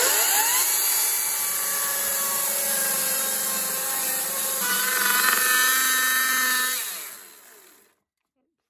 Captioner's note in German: Geräusch einer elektrischen Kettensäge